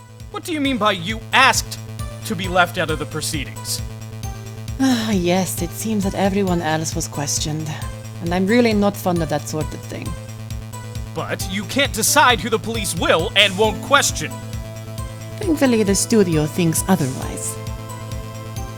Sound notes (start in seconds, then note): 5.3 sigh